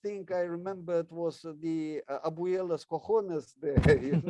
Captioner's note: speaks in foreign language